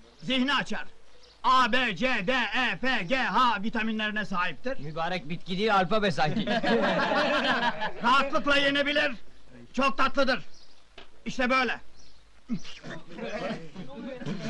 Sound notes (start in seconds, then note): 6.2 laughter